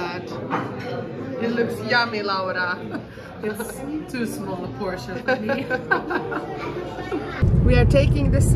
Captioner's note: laughter